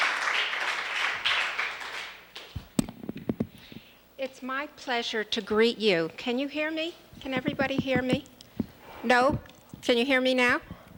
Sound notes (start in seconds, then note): 3.4 applause